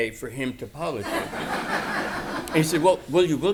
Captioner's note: laughter